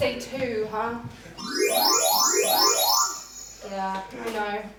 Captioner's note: TARDIS beeps